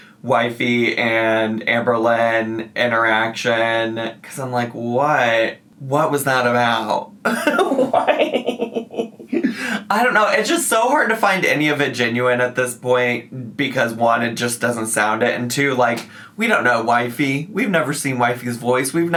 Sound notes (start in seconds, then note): 7.2 giggling